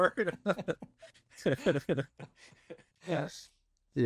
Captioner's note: laughter